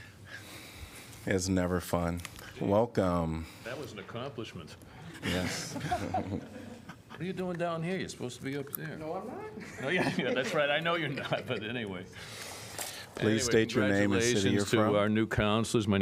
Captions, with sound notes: As never fun. Welcome. That was an accomplishment. Yes [LAUGHTER]. You're doing down here. You're supposed to be up there. That's right. I know you're not, but anyway. Please state your name. Our new councilors.